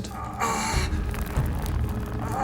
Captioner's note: rope creaks; groans